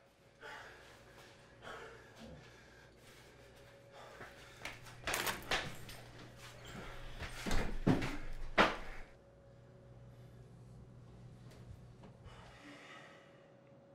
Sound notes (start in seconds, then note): 1.6 panting; 5.7 keys jingling